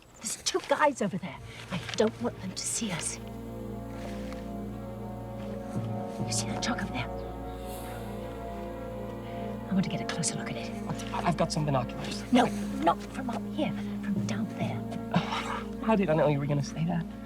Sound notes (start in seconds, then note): 3.4 suspenseful music; 14.7 Nigel scoffs